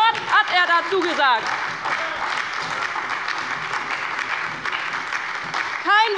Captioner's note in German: Lebhafter Beifall bei der LINKEN und der SPD